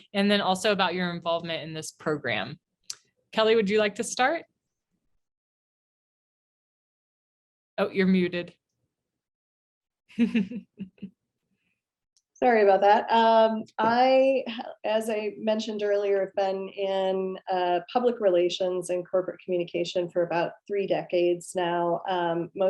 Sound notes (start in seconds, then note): 10.1 laughs